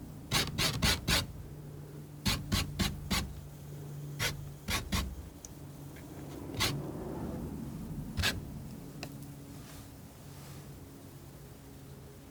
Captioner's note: scratching